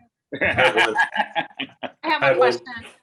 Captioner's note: laughs loudly